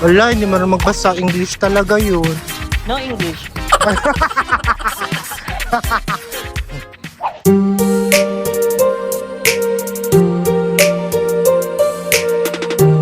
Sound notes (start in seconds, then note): 3.4 laughing; 3.6 laughing SFX